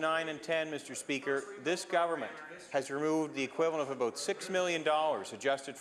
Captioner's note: some applause